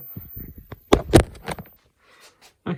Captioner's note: clunk